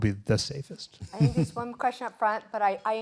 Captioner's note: laughter